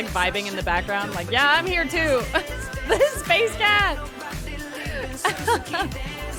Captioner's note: laughs